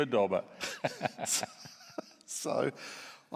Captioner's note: laughs